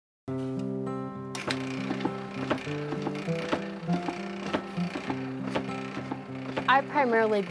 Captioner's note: machine thumping